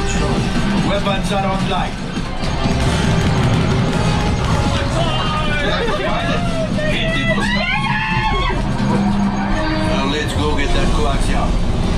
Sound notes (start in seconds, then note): 7.0 screaming